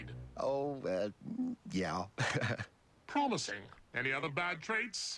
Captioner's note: chuckles